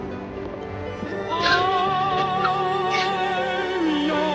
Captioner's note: gasps